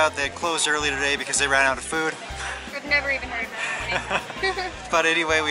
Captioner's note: laughter